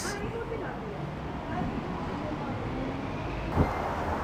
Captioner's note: lady speaking Armenian